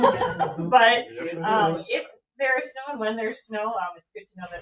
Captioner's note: laughing